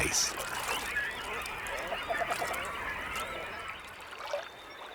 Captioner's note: birds singing; water sloshes